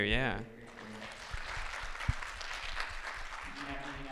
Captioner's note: applause